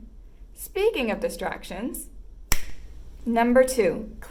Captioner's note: snap